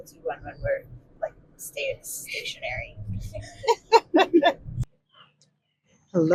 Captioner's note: laughing